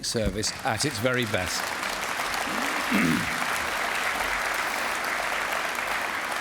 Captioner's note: applause